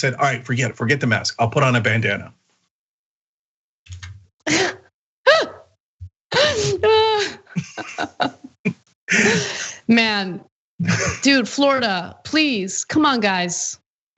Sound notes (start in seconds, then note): 6.4 laugh